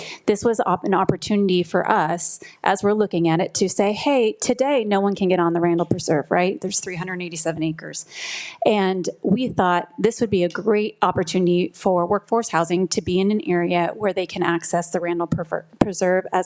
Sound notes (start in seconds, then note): none